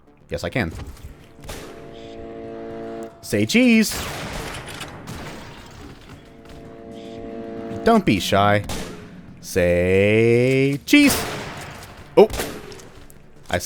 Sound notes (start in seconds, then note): 0.8 Manslayers firing, Railgun charging up; 3.8 BAM, chargeup sound again; 11.1 bam